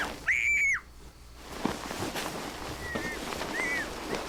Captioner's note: Amanda screaming